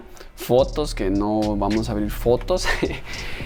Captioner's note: laughs